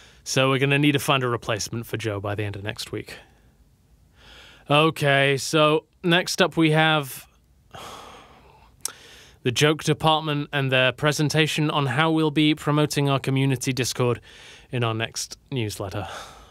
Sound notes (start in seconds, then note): 7.7 sigh